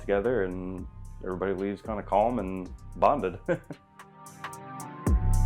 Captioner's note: chuckles; relaxed electronic music continues